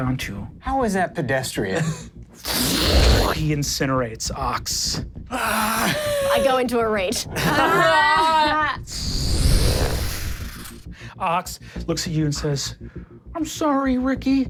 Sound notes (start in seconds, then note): 2.4 imitates whooshing; 5.9 gasps; 7.3 everyone laughs; 8.9 whoosh